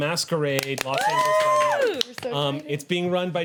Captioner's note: cheering